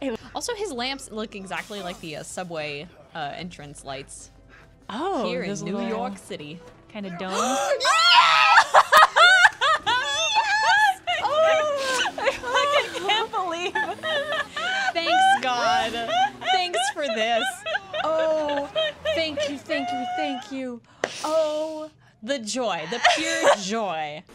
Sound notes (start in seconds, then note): 7.3 laughing and shouting